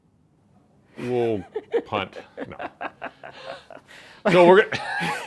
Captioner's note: laughing